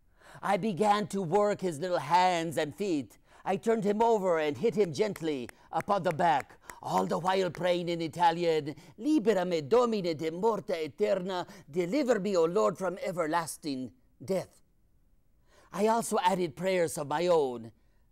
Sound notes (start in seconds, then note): 9.0 speaking in foreign language